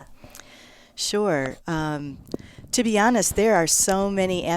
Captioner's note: pat